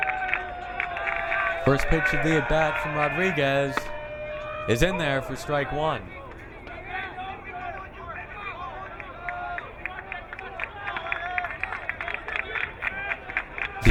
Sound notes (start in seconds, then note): 8.5 crowd cheering; 12.4 crowd clapping